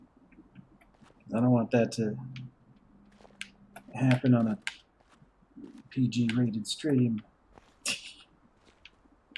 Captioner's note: laughs softly